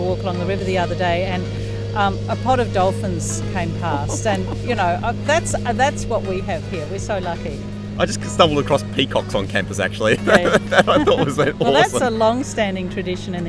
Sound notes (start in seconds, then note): 3.6 laughing; 10.0 laughing